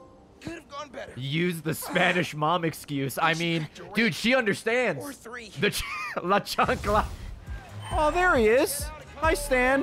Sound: laughs

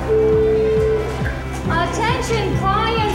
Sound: bell chiming

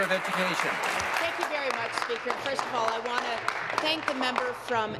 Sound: applause

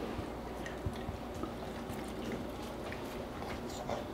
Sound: slurping

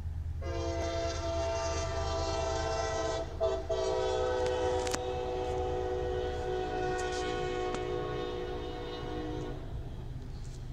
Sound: CSX train horn

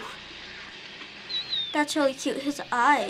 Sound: monkey squeaking

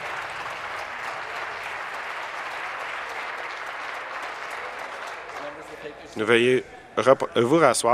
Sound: applause

